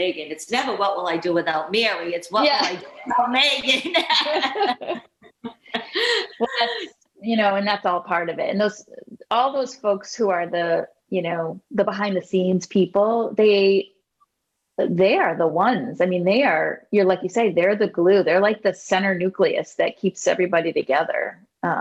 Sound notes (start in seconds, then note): 3.4 laughing